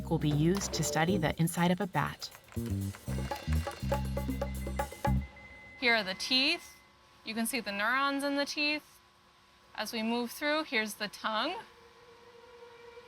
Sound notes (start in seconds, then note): 2.1 typing; 5.2 scanner beeping